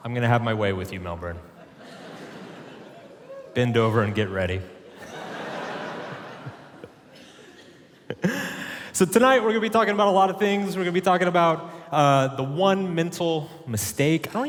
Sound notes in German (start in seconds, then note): 1.5 Publikum lacht; 4.8 Publikum lacht; 8.2 lacht